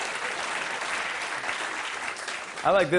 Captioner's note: applause